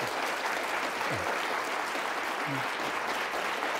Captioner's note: audience applauds